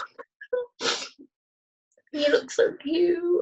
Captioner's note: laughter